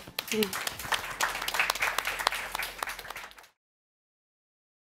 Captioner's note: applause